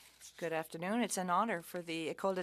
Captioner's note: speaking French